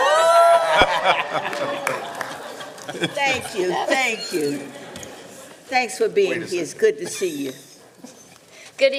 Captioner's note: laughter